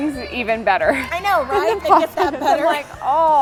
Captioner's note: laughing